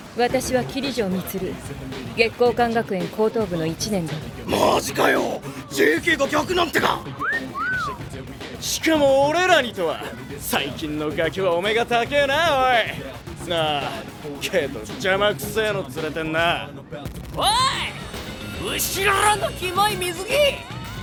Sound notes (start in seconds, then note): 7.0 whistles